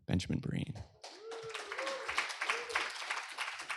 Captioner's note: applause